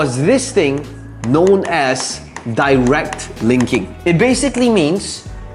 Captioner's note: marker tapping